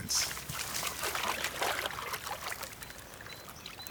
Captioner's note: water sloshes